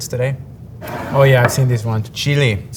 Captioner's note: jar sliding